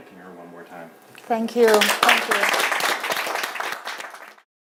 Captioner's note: audience applauds